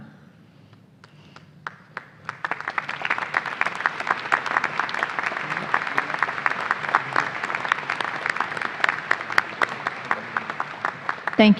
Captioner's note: applause